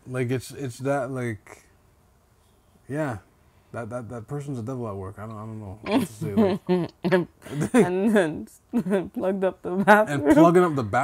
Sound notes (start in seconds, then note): 5.9 laughing